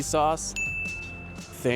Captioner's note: bell dings